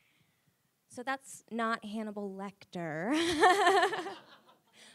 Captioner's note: laughs with audience